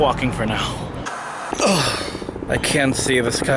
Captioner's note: white noise scratching